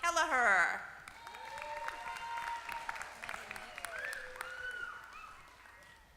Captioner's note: applause